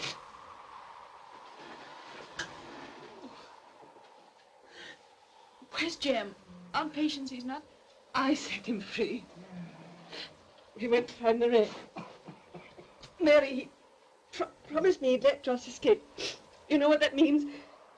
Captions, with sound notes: - Where's Jem? Aunt Patience, he's not...? - I set him free. He went to find the wreck. (Joss coughs weakly) Mary, he...promised me he'd let Joss escape.